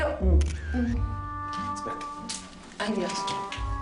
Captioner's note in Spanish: Sonido del obturador